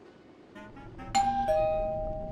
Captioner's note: ding dong